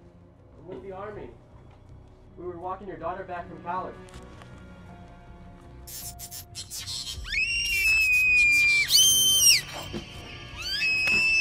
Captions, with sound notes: I'm with the army. We were walking your daughter back from college... [emergency food supply bar being opened] [robotic beeps and shrieker screams]